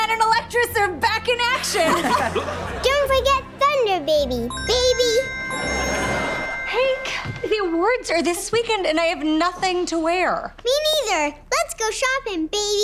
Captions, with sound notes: and Electress are back in action. [laughing] Don't forget ThunderBaby, baby. Hank, the awards are this weekend and I have nothing to wear. Me neither. Let's go shopping, baby.